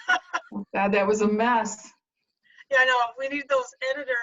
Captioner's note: laughter